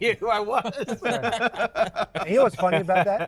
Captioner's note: all laughing